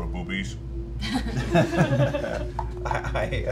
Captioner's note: laughter